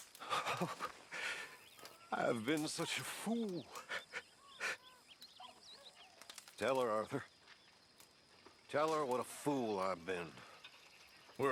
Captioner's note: sobs